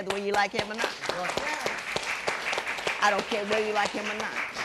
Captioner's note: applause